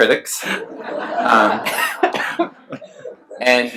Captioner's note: laughs